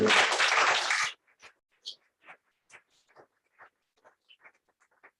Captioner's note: applause